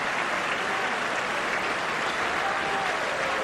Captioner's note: applause